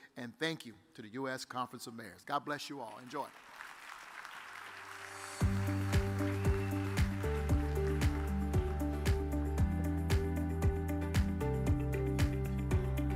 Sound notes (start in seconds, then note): 4.4 audience applauds; 5.1 upbeat music begins